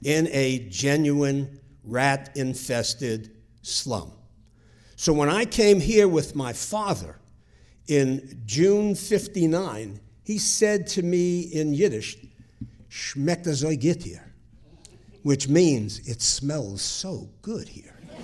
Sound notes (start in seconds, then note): 13.0 speaking foreign language